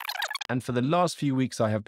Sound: fast advancing sound effect

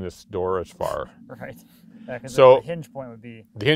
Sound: laughing

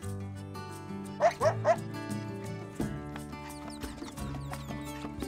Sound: fox barks

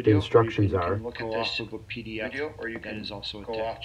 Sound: video playing in background

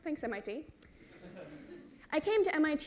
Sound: laughter

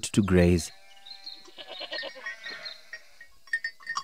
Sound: goats bleating; bell tinkles

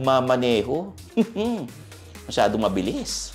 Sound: scoffs

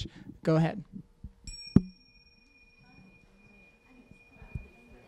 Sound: bells

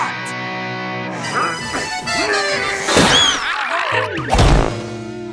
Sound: grunting

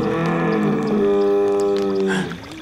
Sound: trumpeting

